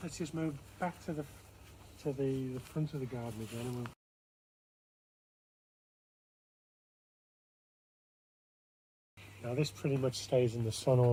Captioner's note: audio cuts out